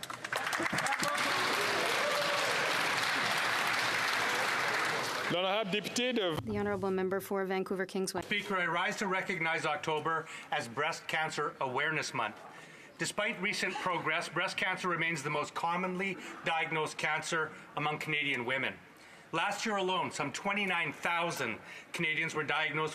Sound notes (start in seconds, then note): 4.6 some Applause